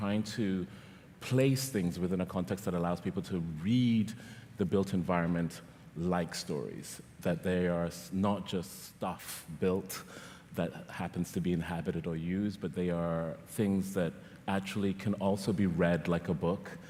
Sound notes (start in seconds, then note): none